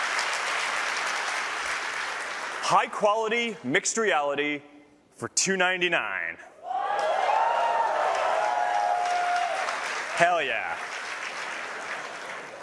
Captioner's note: applause